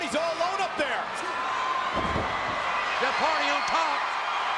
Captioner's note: audience cheering